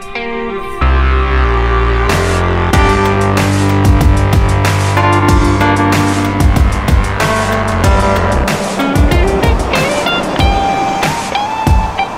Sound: bus driving

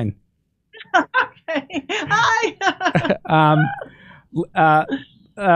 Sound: laughs

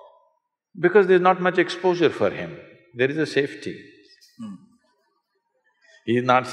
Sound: laughs

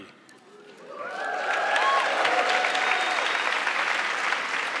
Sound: audience clapping

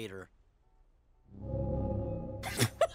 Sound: ominous sound; laughs

